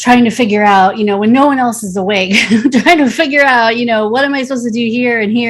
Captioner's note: chuckles